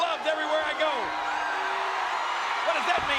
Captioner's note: audience cheering